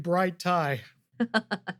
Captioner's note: laughs